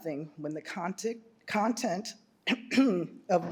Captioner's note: clears throat